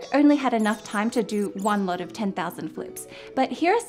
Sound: mouse squeaking

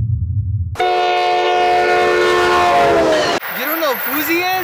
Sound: loud train whistle

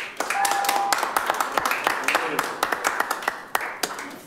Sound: attendees applaud

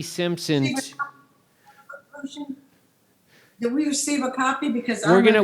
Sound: cracking drowns out speaker

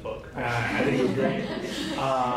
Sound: laughter

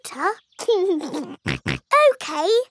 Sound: laughs and snorts

